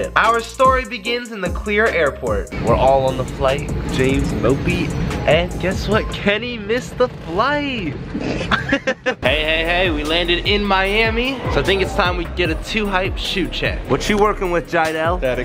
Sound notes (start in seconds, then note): 8.1 happy men laughing